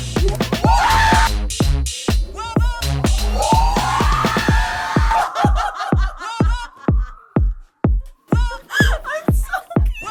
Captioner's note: laughter; screaming & laughter